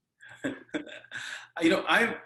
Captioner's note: laughs